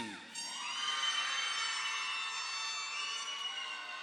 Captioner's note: audience applauding